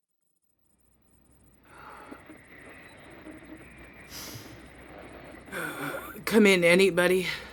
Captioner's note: static